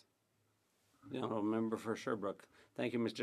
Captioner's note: speaking French